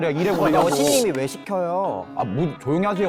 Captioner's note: VIP service sound effect